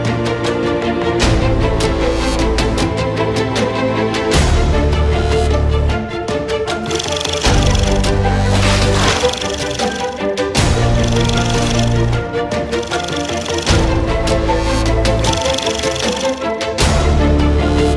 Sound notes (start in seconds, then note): 4.5 dramatic theme music; 6.8 reel spinning